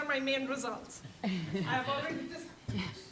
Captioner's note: woman laughing